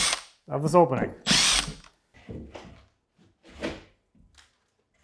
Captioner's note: drill whirring